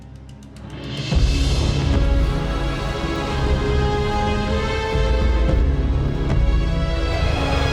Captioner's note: dramatic music; dragon growls